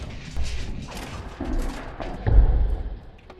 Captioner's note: door Crashes Open